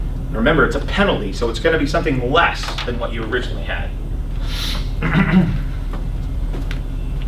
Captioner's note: clears throat